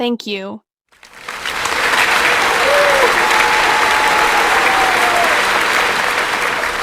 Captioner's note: applause